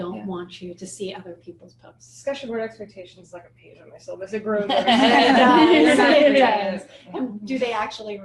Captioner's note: laughter